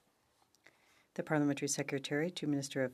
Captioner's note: speaking in French